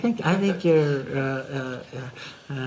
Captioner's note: laughs